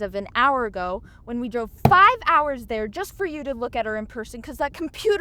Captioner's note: thump